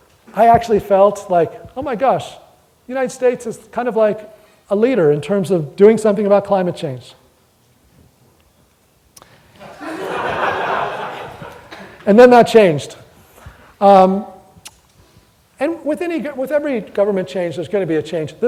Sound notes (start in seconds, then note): 9.6 audience laughter